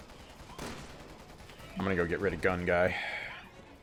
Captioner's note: blam blam